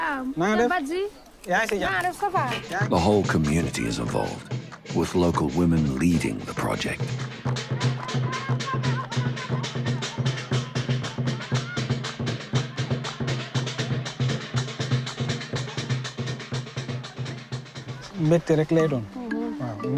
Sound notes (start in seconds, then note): 8.1 group celebrating; 8.1 upbeat percussion music